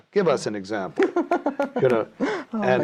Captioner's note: laughing